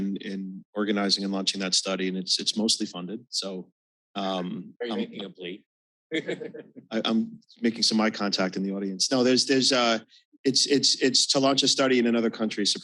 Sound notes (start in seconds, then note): 6.1 chuckles